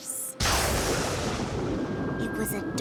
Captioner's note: thunder crashes